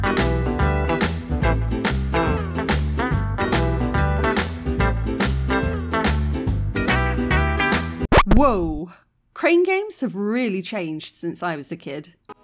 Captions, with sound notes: [record scratch] Wow! Crane games have really changed since I was a kid!